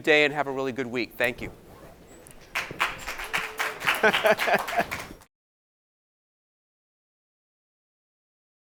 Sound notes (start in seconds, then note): 2.4 audience applauding; 3.0 laughing